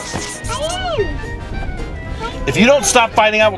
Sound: kids arguing

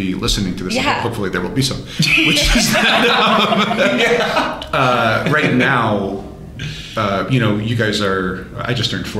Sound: laughter

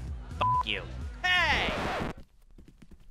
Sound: record scratch

